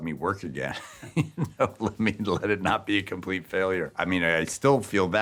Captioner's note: laughing